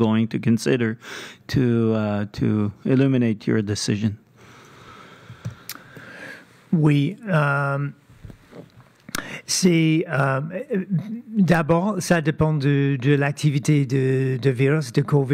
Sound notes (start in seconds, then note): 3.8 speaking French